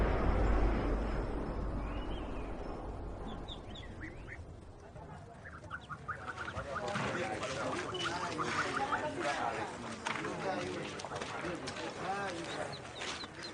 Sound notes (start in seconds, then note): 5.5 chickens peeping; 7.3 people chattering